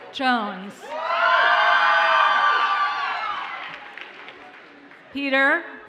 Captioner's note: audience cheers and applauds